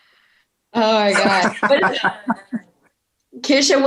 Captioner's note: laughing